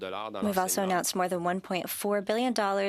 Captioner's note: speaking French